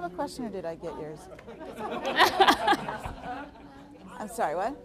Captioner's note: all laughing; audience laughing